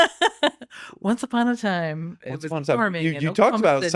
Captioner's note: laughing